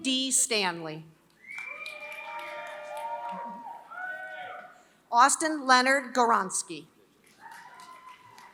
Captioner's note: applause; applause